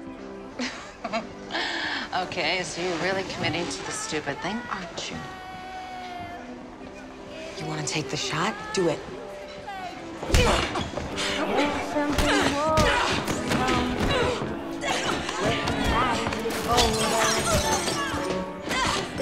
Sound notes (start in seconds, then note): 0.5 laughs; 11.2 both grunting; 12.1 patrons murmuring; 16.5 glass shattering